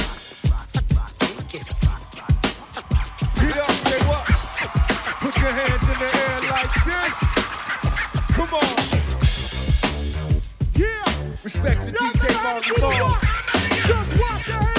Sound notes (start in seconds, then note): 4.7 cheering